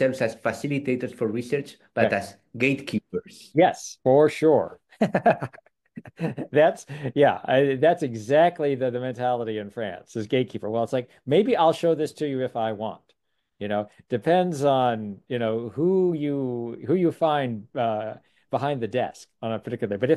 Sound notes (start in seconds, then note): 5.9 laughs